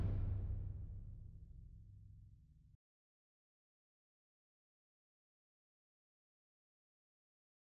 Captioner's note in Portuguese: sem áudio